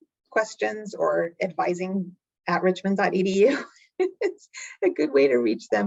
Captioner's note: chuckling